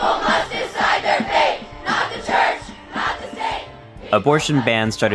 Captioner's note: protest audio